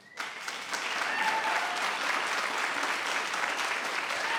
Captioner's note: cheering and applauding